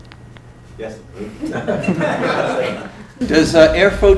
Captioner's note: laughter